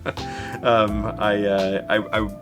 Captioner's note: person laughing